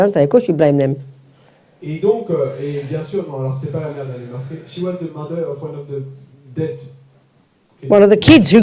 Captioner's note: French